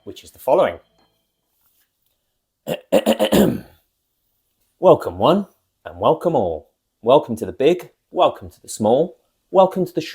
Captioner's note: clears throat